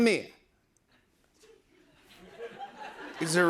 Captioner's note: laughter